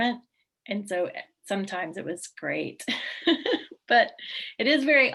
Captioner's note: laughs